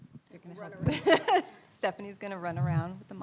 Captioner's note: laughs